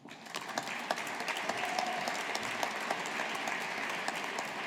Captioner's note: audience applauding